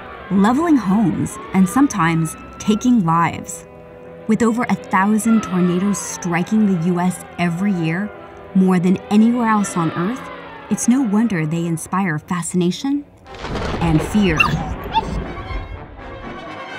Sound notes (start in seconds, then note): 13.2 thunderclap; 14.3 yelping